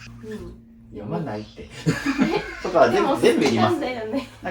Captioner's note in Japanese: 笑い